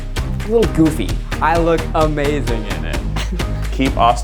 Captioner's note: giggles